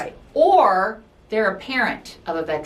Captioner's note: none